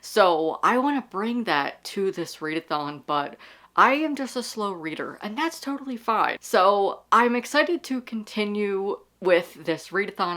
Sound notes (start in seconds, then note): none